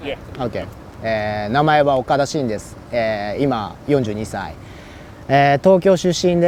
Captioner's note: speaking in foreign language